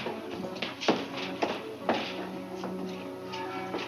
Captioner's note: footsteps